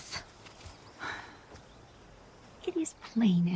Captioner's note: sighs